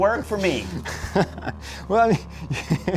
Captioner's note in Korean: 웃음